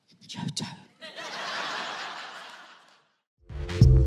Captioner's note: audience laughing